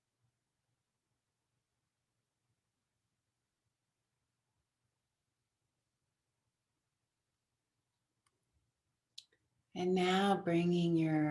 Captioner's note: silence